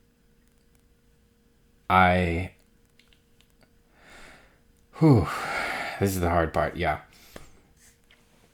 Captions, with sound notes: I... (sighs) this is the hard part, yeah...